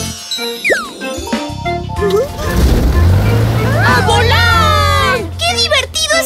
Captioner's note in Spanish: Sonido de motor